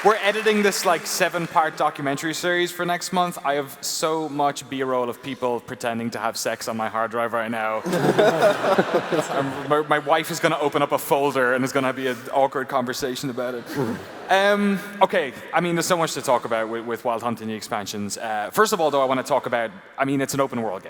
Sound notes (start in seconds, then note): 7.8 laughter